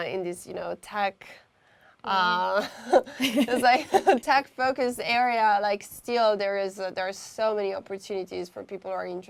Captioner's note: laugh